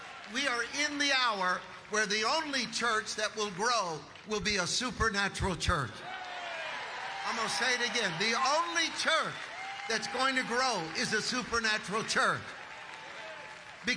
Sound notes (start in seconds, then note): 6.0 audience applauding